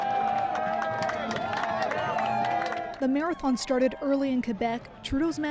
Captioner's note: cheers and Applause